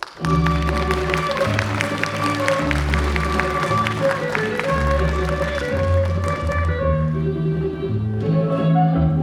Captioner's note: applause